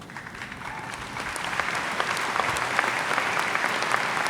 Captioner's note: audience applauds